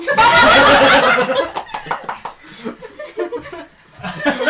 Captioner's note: laughter